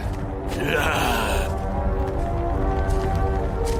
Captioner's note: barbaric snarls